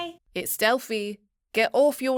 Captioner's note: confident Female Voice